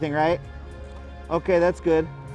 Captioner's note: speaks faintly